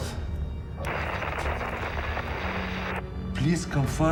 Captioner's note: static hisses